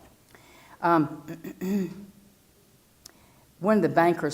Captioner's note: cough